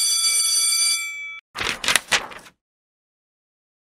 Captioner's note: school bell ringing; paper rustling